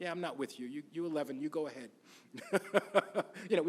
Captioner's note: laughs